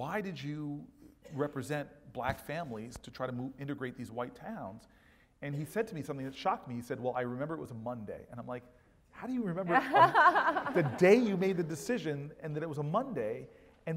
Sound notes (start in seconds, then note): 9.7 laugh